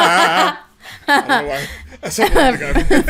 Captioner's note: laughing